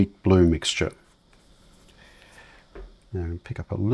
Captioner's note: silence